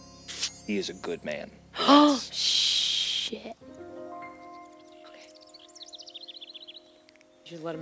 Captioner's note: gasps